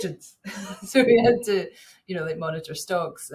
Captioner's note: chuckles